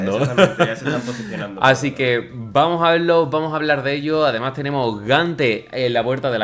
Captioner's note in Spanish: risas